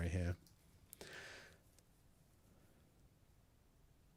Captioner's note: silence